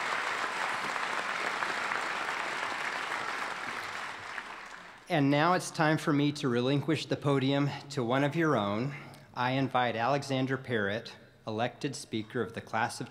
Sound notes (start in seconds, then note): 4.7 applause